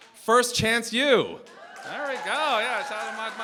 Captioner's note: cheering, applause